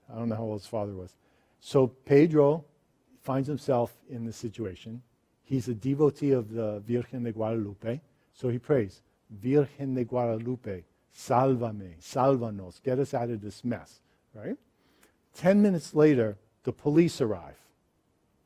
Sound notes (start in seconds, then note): 11.2 speaks in foreign language